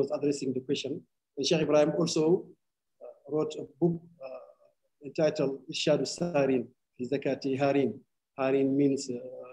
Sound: speaking arabic

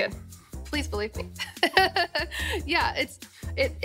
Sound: laughing

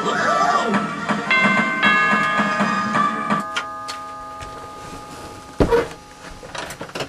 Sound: doorbell rings

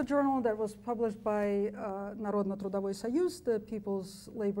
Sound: speaks foreign language

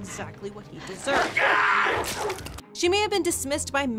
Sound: dogs snarling; Ramsay screaming

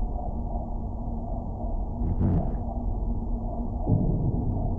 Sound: man speaks in muffled voice

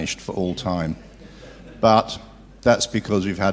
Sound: laugh

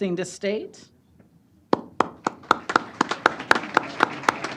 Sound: applause

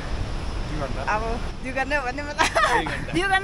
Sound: chuckles

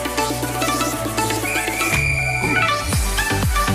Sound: whistle blows

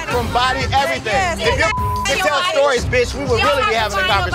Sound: beep

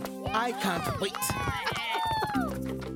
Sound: cheering

